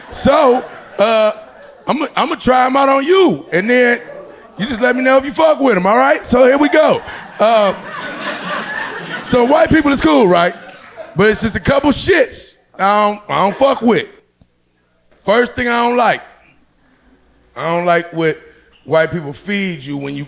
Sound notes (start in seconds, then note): 7.6 audience laughing